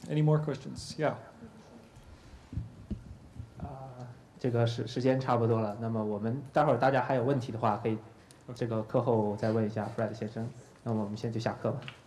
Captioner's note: speaking in Chinese